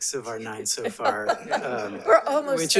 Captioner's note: attendees laughs